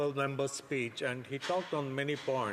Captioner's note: speaking French